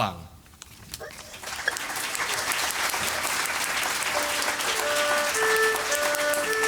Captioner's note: applause